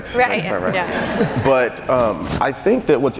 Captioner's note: laughing